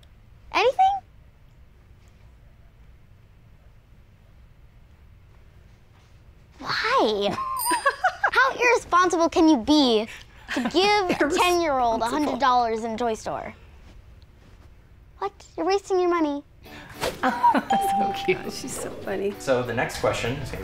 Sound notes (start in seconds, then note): 7.2 giggles; 17.2 chuckles